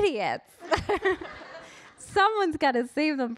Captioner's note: audience laughing